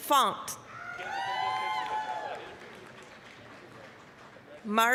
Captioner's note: applause, cheering